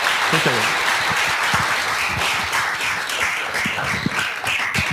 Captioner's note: audience applauding